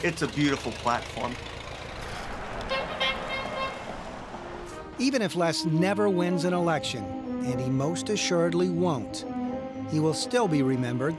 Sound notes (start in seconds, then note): 2.1 engine rattling; 2.6 truck honking clown horn